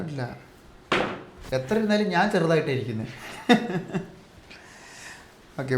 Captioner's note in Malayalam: പൊട്ടിച്ചിരി